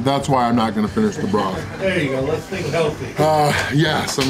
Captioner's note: crowd